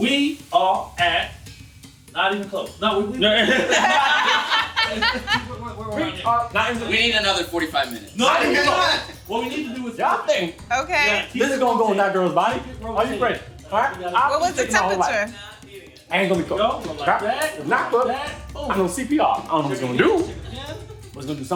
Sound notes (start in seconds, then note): 3.1 all laughing; 8.5 group chattering; 14.3 group chattering; 17.2 contestants chattering indistinctly